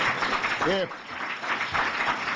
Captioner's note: applause